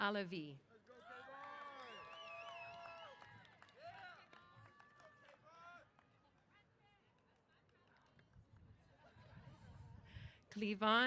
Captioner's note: applause & Cheers